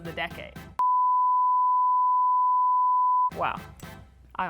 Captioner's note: empty dial tone